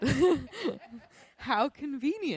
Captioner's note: chuckles